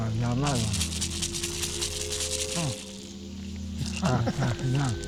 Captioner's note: speaking Spanish; rattles; speaking Spanish